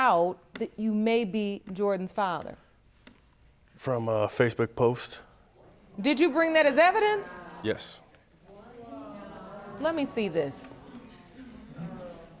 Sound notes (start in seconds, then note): 8.3 audience muttering